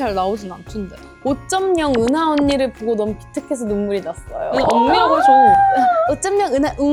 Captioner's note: laugh